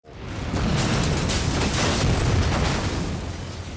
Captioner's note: explosions pounding